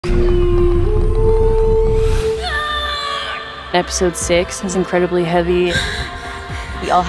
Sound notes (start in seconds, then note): 1.9 shouts; 5.6 panting